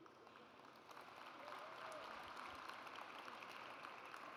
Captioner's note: audience applauds